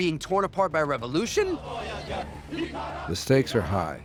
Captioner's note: chanting